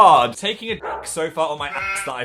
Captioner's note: bark